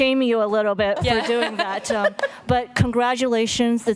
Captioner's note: laughter